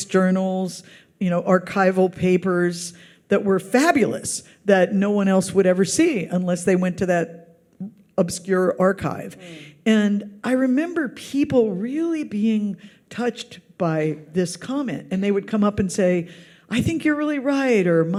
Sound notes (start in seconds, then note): none